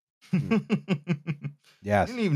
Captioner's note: chuckles